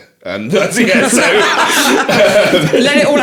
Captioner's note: laughing